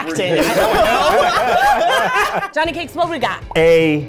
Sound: everyone laughing

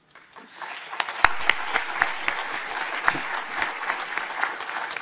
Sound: audience applauding

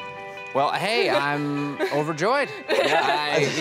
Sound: laughs

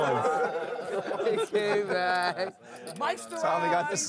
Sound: laughing

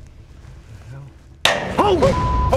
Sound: loud clang

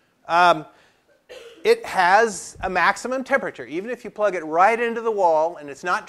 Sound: cough

